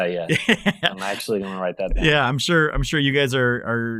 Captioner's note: laughing